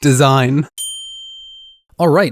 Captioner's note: words ping in